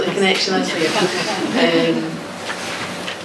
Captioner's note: laughing